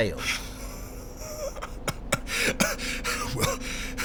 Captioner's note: Edward coughs and laughs hysterically